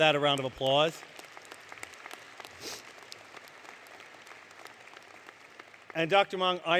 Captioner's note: applause